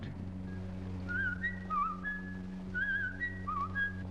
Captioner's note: whistles